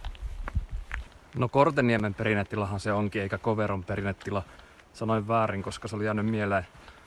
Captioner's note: in Finnish